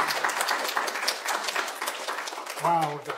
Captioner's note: applause